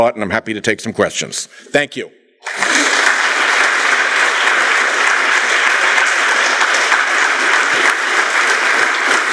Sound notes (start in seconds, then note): 2.4 applause